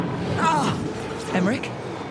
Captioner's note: pained cry